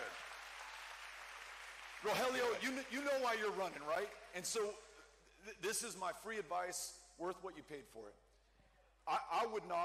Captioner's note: cheering